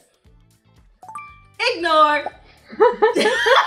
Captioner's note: notification chiming; Dara and Crew Member laughing